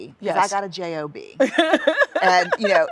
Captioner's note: laughs